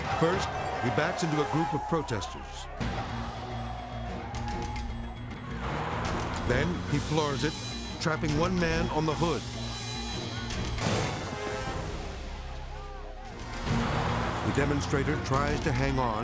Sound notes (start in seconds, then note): 3.1 intense orchestral music; 5.4 car revving; 9.4 dramatic beat